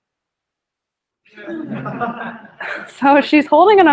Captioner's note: laughter